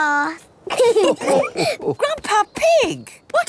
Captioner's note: all laughing